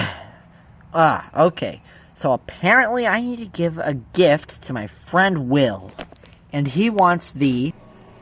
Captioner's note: sigh